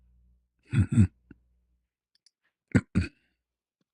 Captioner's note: berdehem